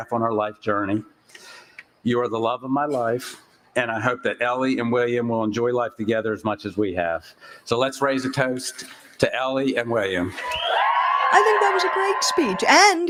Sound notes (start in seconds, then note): 10.2 cheering